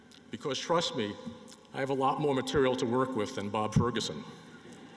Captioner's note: laughter